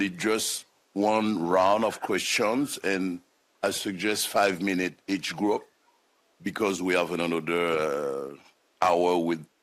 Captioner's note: speaking French